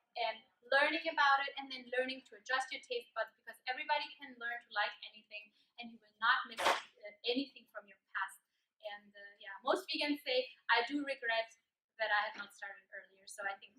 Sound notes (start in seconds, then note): none